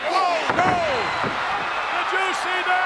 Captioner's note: audience cheers